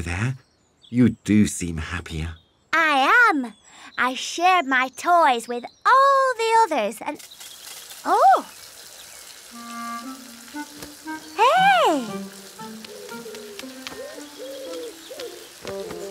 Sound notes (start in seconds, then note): 7.2 rustling